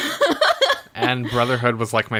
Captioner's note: laughs